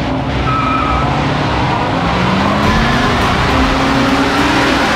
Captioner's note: tires squealing